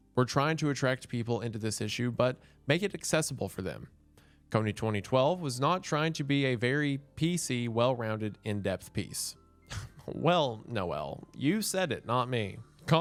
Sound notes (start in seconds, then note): 9.6 scoffs